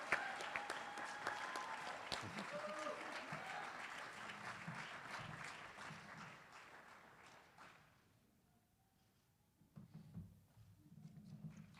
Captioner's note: applause